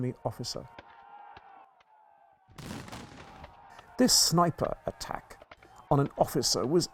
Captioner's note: gunshot